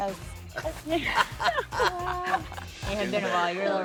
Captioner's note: laughing